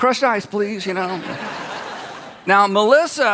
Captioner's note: audience laughs